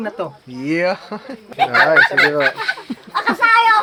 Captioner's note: laughs